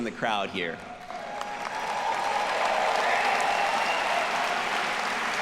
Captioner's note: audience applauding